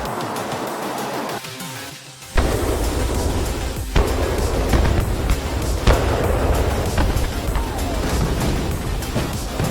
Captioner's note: explosions